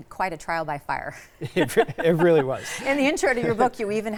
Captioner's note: laughs